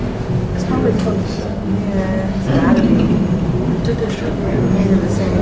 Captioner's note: students murmuring